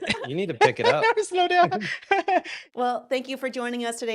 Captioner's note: laughs